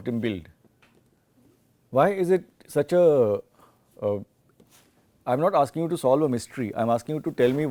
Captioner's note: silent